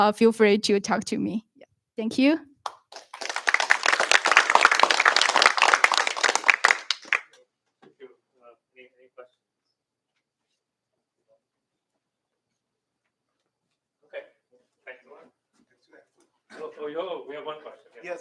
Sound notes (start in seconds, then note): 2.6 applause